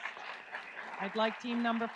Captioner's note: audience applauds